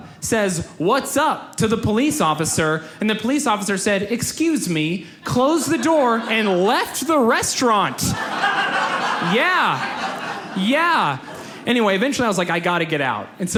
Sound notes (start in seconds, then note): 7.7 audience laughs